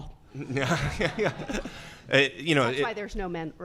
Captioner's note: laughing